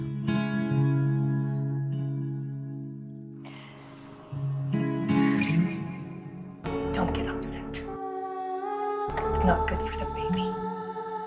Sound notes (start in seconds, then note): 5.0 June exhales